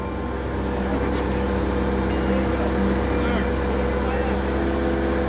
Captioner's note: engine revving